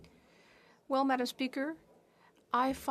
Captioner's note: speaking French